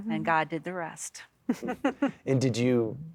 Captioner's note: giggling